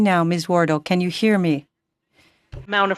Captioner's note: speaking French